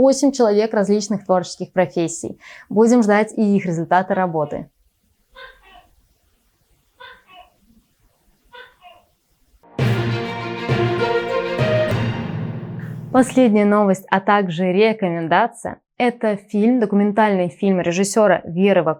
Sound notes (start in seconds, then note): 5.3 gecko sounds